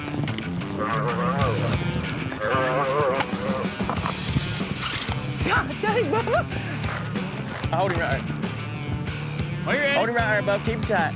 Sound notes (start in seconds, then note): 0.6 calf moos; 5.0 laughing